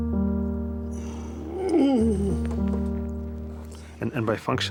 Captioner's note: groans